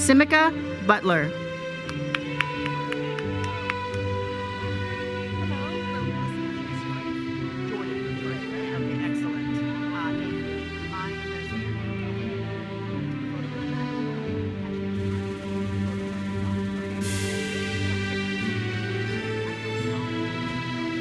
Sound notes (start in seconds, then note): 1.8 audience cheers and applauds